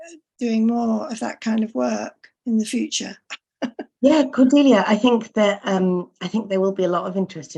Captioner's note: laughs